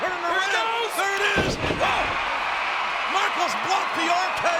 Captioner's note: body thudding